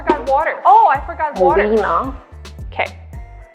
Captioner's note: foreign language